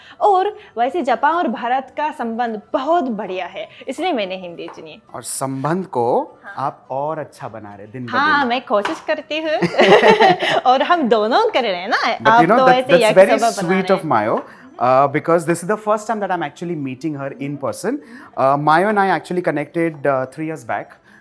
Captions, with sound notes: and the relations between Japan and India are very good That's why I chose Hindi. And you are further strengthening those bonds day by day. -[Chuckles] Yes I do try! -[Laughter] We both are doing it. -You are making Yakisoba! -That's very sweet of Mayo. Because this is the first time, I'm actually meeting her in person Mayo and I connected actually 3 years back